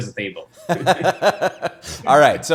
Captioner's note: both laughing